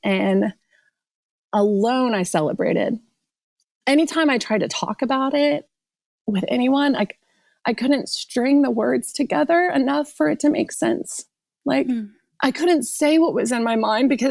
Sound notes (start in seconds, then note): none